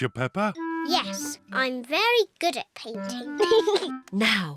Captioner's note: giggles